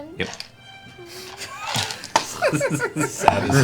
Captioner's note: laughter